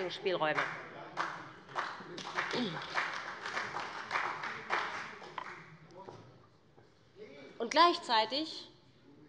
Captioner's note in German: Beifall bei dem BÜNDNIS 90/DIE GRÜNEN und der CDU